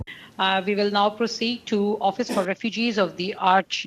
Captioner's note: speaking French